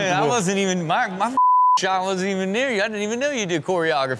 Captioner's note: beep